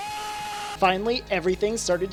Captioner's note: Pewdiepie screams